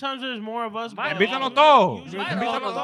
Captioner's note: speaking In Foreign Language